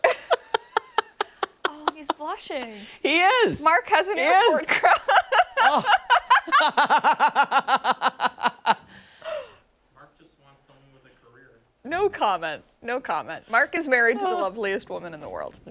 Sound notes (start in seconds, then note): 4.7 laughter